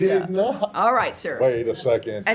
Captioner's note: laughter